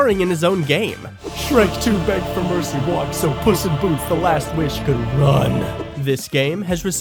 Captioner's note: distorted